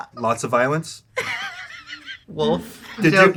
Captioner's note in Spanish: risas